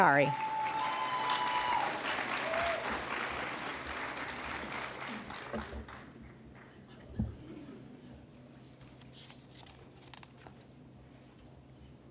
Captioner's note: cheering and Applause